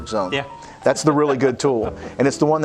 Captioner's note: laughs